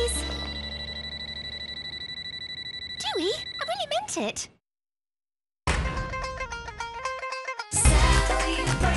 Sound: lie detector beeps

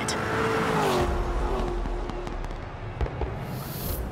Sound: fireworks popping

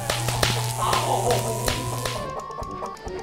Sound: sparks

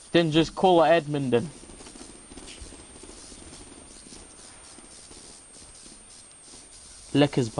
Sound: awkwarrd Silence

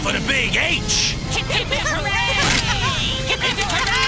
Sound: Whoppers Cheering

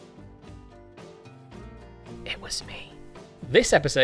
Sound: whispers

